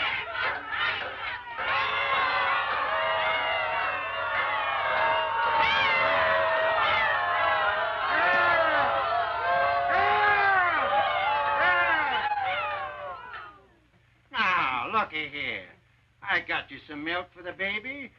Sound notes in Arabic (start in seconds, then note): 0.0 نساء يرددن شعارات باللغة الإسبانية; 1.7 صيحات استهجان من النساء